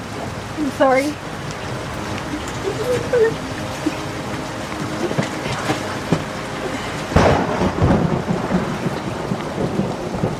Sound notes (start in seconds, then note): 7.2 thunderclap